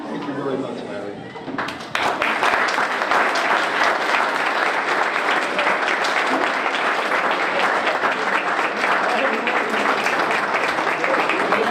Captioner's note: applause